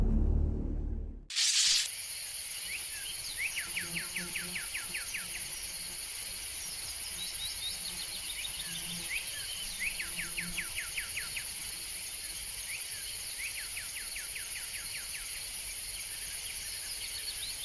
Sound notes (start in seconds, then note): 1.3 screen crackles; 1.3 bugs buzzing; 2.4 birds chirping